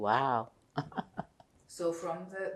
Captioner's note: laughing